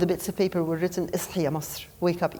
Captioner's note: speaking foreign language